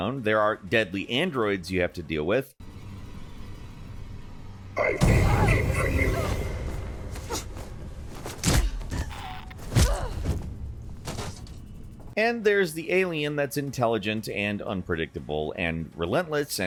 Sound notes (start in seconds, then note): 8.5 character grunting; 9.6 blow thudding